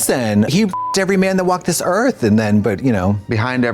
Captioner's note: beep